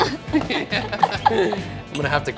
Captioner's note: laughing